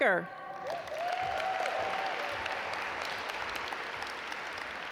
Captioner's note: audience applaud